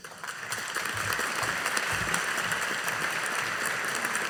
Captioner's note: audience applauding